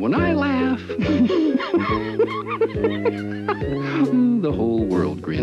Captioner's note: Chicago laughs